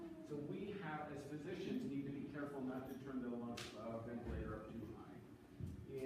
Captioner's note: none